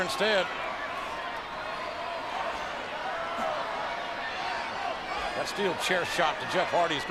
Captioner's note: applause